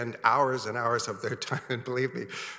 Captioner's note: chuckles